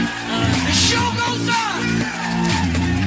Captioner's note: Aplauze